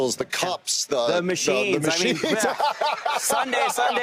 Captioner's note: laughs